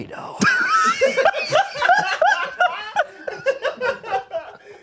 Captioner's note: and crew laugh